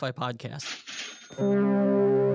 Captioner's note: cash register cha-ching